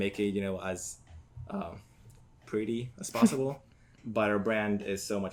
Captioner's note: laughs